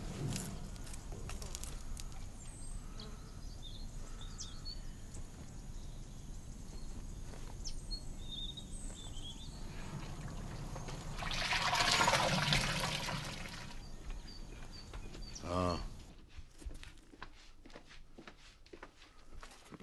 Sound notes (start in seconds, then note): 9.6 sloshing water